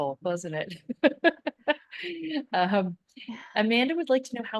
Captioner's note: laughing